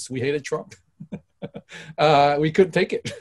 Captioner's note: laughs